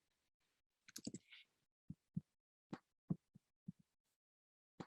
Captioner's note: mouse clicking